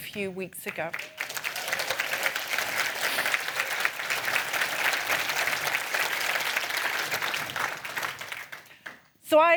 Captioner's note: applause